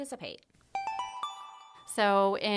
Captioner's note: chime